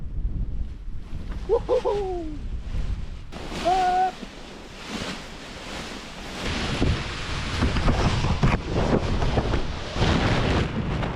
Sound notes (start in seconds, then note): 3.8 wind blowing, camera gets caught in paraglider lines